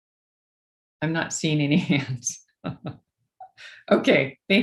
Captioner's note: laughs